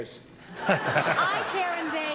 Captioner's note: laughter